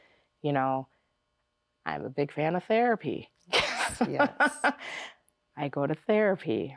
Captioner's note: laughs